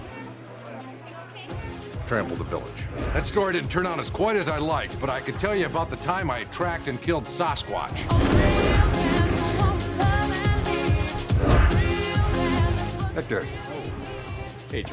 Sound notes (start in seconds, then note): 7.8 whooshing sounds; 9.2 techno music